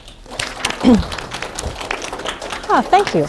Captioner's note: applause